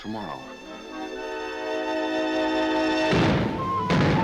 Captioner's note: guns firing